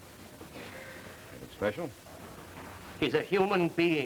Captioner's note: Moulton's voice